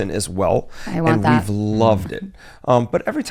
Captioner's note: chuckles